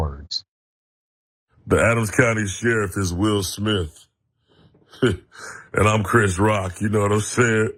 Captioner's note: laugh